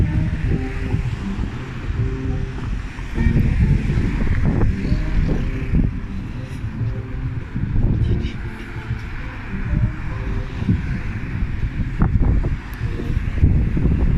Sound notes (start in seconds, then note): 0.6 noisy traffic & live jazz music